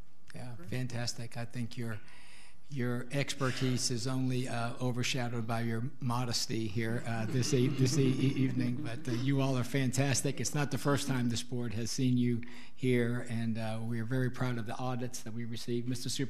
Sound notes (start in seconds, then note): 7.0 all laughing